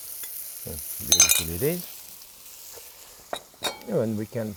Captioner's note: spoon clinking